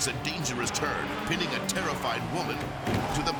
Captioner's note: car revving; thuds